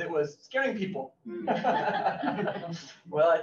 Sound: all laugh

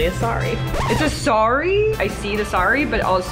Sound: record scratching

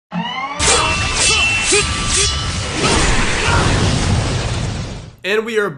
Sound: ninja swords wooshing

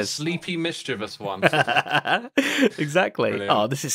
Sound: laughs

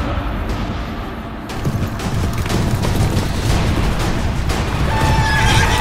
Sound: dramatic music; horses galloping

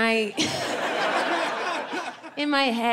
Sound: audience laughing

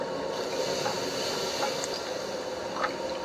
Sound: sizzling

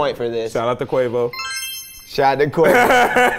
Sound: bell chiming

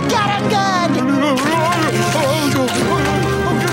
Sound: groaning

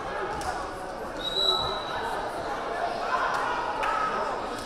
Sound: whistle blaring

